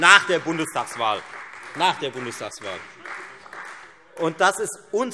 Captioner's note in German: Beifall Freie Demokraten